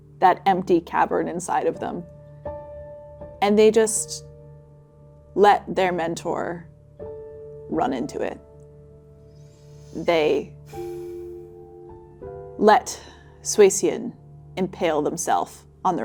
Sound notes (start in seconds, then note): 10.6 breathing deeply